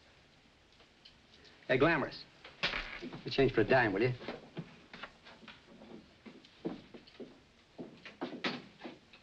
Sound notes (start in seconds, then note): 2.7 coin clatters